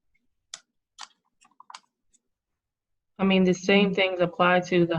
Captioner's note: keyboard clatters